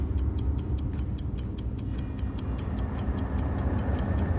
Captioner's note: clock ticks